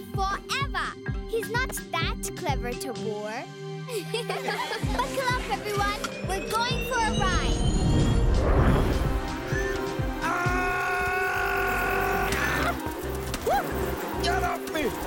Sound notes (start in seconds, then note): 3.9 laughing; 7.2 whirring